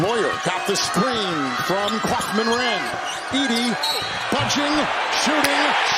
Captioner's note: whistle